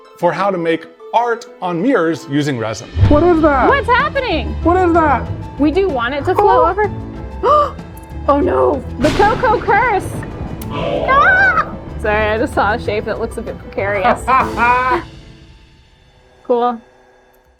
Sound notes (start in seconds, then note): 7.5 gasps; 11.0 shouts; 14.1 laughing